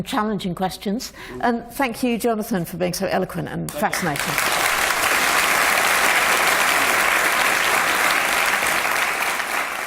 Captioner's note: applause